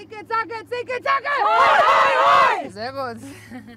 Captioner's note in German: alle laut